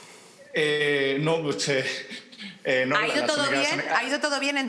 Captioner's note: laughing